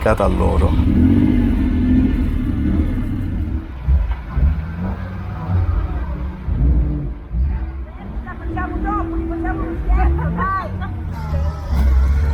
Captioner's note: Dino engine's noises